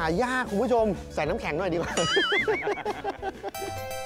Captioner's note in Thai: เสียงหัวเราะ